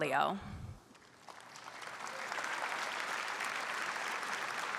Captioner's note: audience applauds